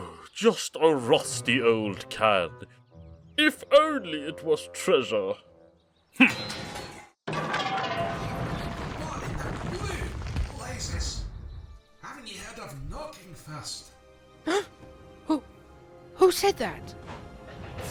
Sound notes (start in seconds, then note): 7.2 clattering and rumbling; 14.2 gasps